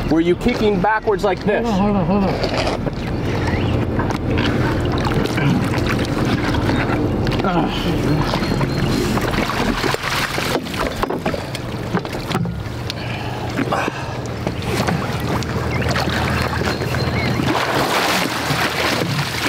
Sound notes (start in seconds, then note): 9.8 water splashing